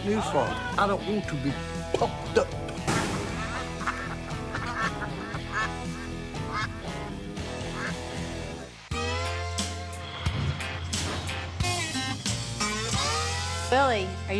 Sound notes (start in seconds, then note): 3.4 ducks quacking; 8.5 twangy music